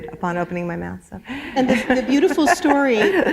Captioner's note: laughter